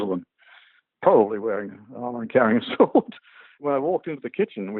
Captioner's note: laugh